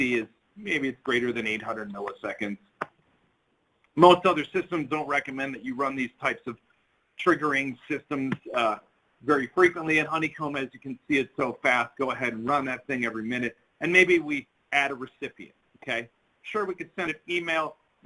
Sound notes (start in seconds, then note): none